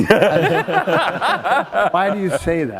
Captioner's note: laughter